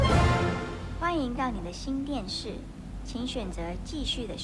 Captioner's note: TV speaks Mandarin